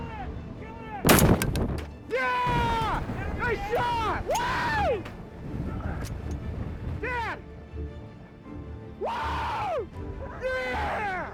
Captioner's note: gun shot